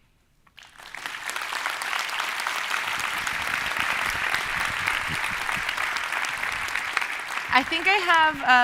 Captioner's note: applause